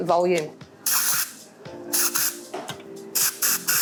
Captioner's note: spraying